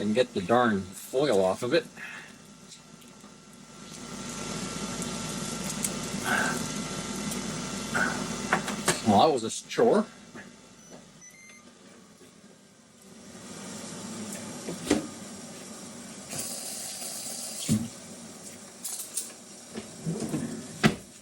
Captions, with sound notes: I can get the darn foil off of it. Well, that was a chore. (mixer whirring)